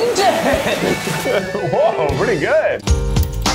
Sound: laughing

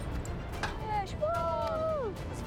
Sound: cheering

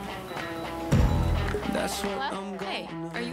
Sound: phone rings

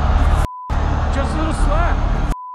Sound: beep

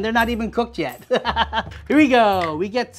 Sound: laughing

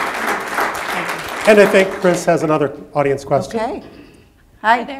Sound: applause

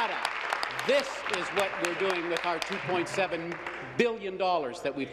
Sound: applause

